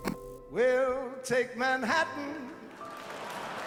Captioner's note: audience applauding